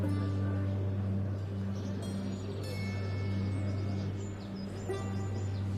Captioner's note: birds chirping